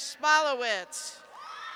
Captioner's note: cheers